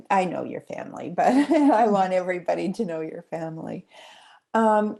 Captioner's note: chuckling